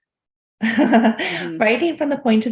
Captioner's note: chuckling